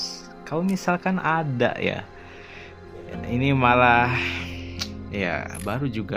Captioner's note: snorts